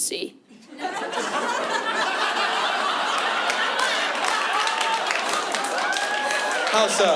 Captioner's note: laughter